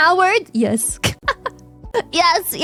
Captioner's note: laughs